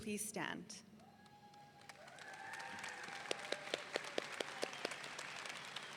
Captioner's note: audience cheering